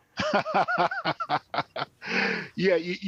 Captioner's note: laughing